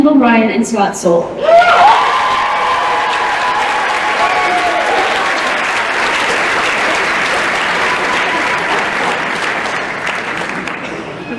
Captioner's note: cheering and applause